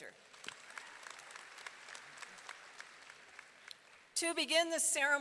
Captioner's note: audience applauding